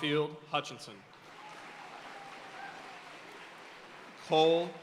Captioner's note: audience cheering and applauding